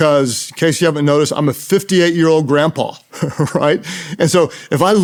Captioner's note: laughs